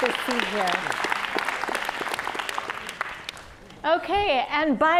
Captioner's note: audience clapping